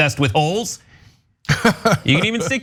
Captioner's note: laugh